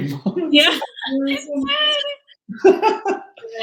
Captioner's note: laughing